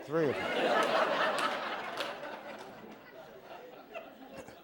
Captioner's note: laughter